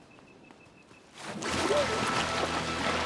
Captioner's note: splashing; gentle music